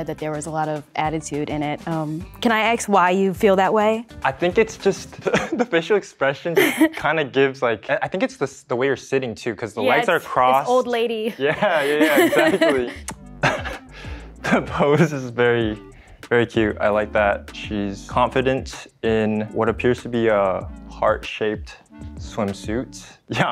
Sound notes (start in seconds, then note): 6.5 laugh; 11.3 laugh; 11.4 laughs